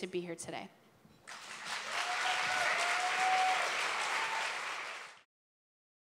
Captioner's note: applause